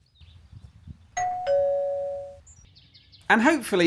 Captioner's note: ding dong